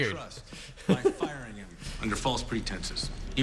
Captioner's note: laughs